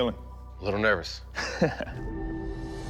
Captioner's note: laughs